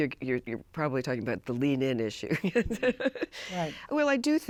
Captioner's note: laughs